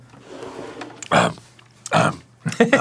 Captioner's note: throat clear